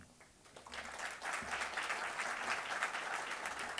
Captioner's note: applause